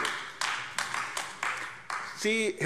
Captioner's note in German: Beifall AfD